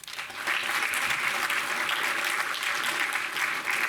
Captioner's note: audience applauding